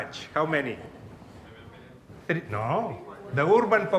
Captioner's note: audience chattering